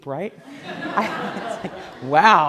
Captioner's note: laughing